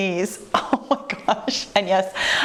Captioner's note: chuckles